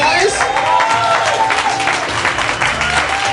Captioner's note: applause